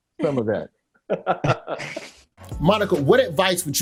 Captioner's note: Jordan laughs